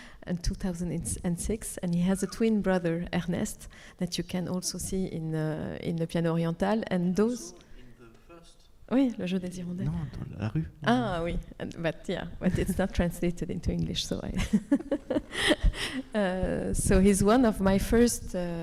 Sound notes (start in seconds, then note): 9.3 speaking French